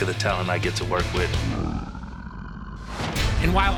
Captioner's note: growling